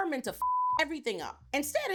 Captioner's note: beep